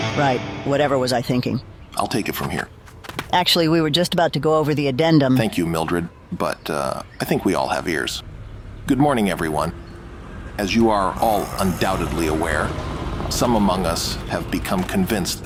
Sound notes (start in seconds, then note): 11.2 man groans